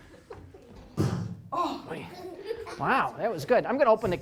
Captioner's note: slamming noise